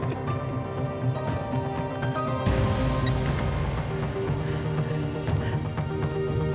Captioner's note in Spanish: risas